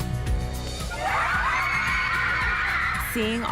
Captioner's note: screams